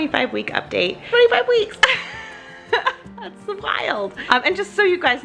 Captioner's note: laughs